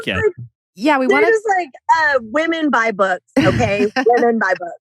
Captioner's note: laughs